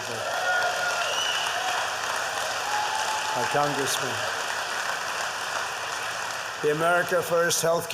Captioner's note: applause